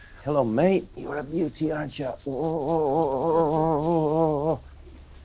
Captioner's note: growling